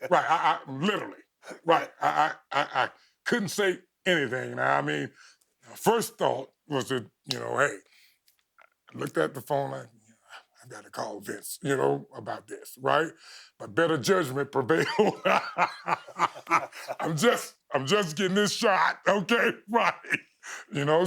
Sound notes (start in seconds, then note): 14.7 both laughing